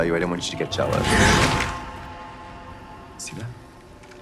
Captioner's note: cauldron bubbling; suspenseful music